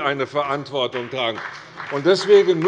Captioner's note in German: Beifall bei dem BÜNDNIS 90/DIE GRÜNEN sowie bei Abgeordneten der CDU und der FDP